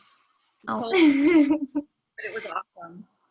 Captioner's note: laughing